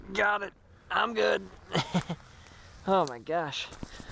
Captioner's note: laughs